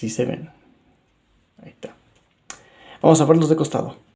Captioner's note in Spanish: Silencio